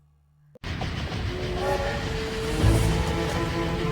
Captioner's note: train noises